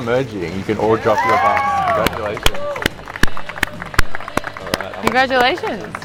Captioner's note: cheers